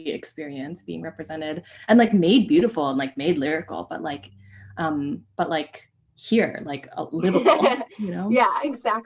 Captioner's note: laughter